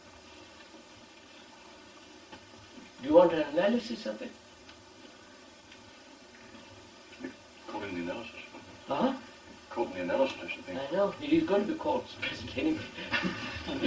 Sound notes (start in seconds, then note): 12.8 laughter